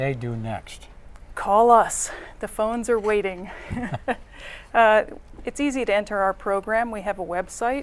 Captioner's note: laughter